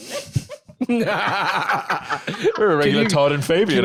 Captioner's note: all laugh